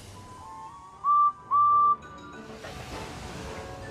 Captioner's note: edward whistles